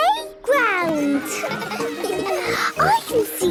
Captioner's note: children laughing